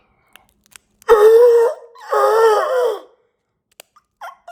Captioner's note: Chuck gasping